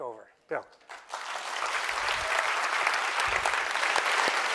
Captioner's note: applause